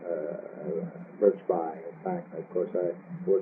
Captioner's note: laughs